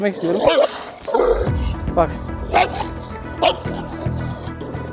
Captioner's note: barking sounds and tense music